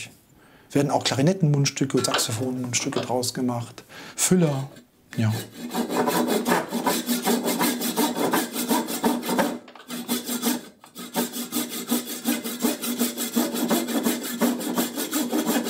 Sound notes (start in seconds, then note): 5.2 rough cutting noise